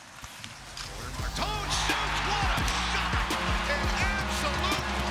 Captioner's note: audience cheering